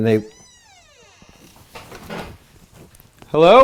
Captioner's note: door creaks